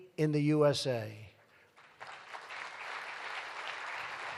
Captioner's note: applause